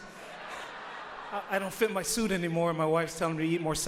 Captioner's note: audience laughs